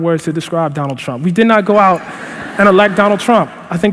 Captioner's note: laughter